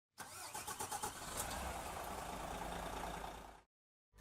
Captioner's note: diesel motor starting